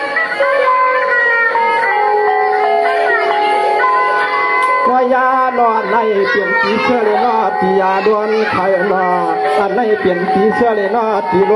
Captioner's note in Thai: ปรบมือ